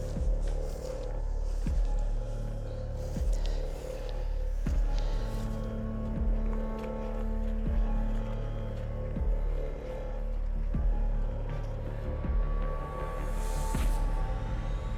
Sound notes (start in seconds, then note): 1.4 footsteps; 5.5 suspenseful music